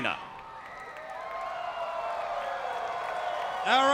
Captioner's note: crowd cheering